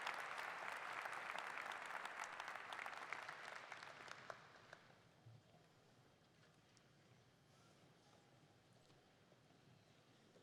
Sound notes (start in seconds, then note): 4.4 applause